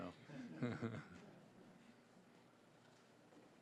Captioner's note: audience chuckling